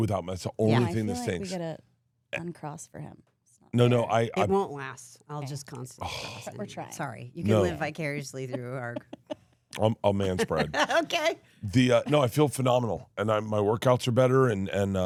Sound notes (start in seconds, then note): 9.8 laughs